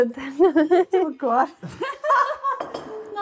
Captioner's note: laughing